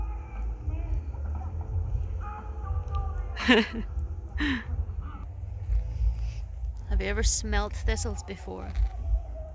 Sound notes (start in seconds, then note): 1.6 strained singing; 3.3 laughs